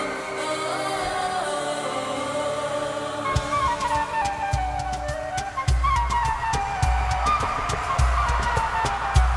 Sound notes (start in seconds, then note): 3.3 audience cheers; 3.5 vibrant music